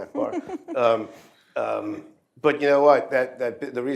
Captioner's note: laughter